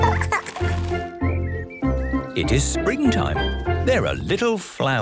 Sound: laughing; birdsong

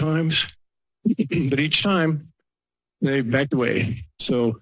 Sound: clears throat

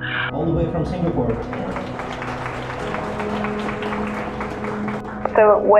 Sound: applause

